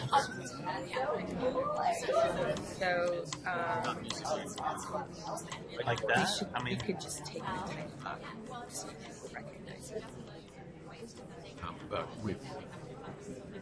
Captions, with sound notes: - [Voiceover] You could just take...